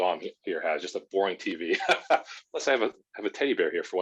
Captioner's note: laughing